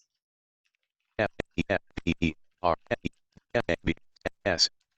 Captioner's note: speaking faintly